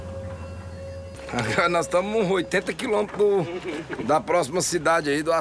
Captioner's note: Portuguese spoken audio